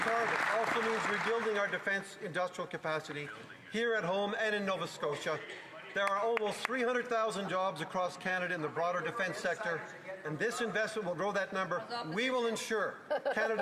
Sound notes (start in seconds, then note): 5.9 some Applause